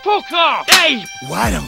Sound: slap

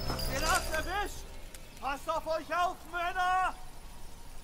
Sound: german

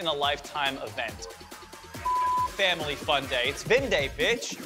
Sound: beep

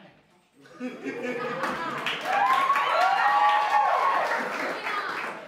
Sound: laughter and applause

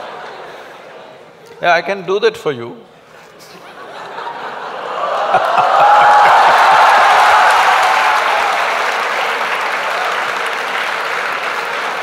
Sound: laughter\Applause

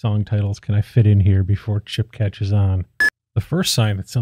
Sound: beep

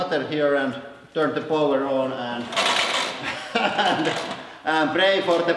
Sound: laughing

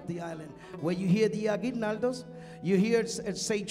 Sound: speaking in Spanish

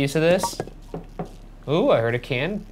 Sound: can falls

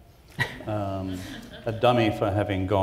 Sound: chuckles

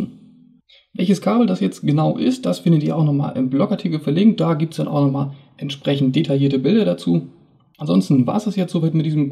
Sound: german

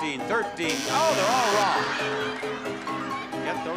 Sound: buzzer rings

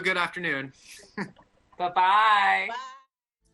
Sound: laughter

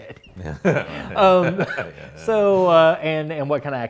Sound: laughs

